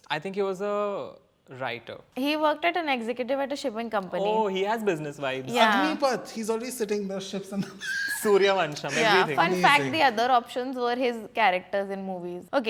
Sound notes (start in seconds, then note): 7.6 laughs